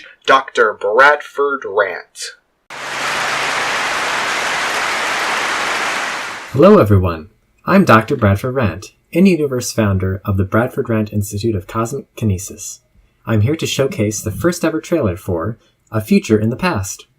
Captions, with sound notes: Doctor Bradford Rant. [Clapping] Hello, everyone. I'm Doctor Bradford Rant, in-universe founder of the Bradford Rant Institute of Cosmic Kinesis. I'm here to showcase the first ever trailer for “A Future in the Past.”